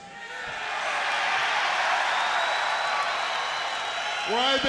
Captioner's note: crowd cheering